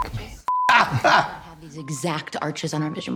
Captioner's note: Trixie chuckles